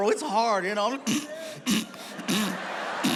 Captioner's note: gagging; audience laughs